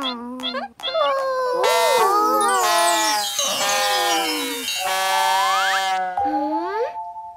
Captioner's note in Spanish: Sonido de bocina